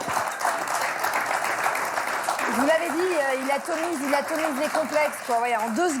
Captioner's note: applause